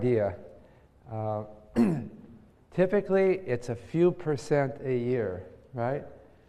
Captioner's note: cough